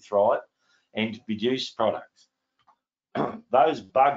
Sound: clears throat

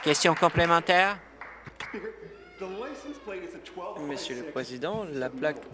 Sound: applause

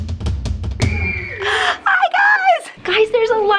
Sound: crowd screaming and cheering

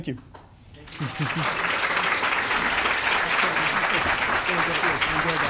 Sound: audience applause

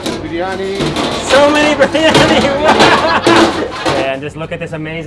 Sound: chuckles

